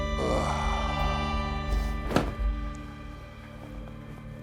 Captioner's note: grunts; Jim sighs